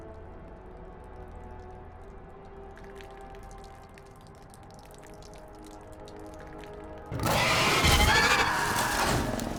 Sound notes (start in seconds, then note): 2.7 urine splashing; 7.1 screaming